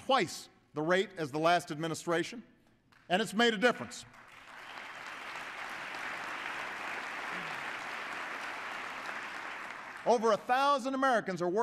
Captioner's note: applause